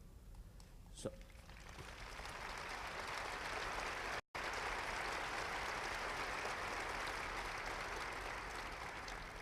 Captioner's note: applause